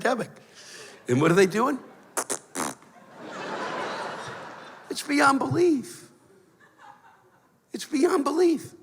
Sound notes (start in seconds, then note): 2.1 blows raspberry; 2.9 laughter